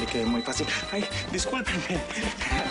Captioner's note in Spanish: Suena el celular